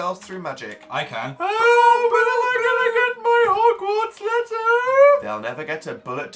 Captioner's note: wailing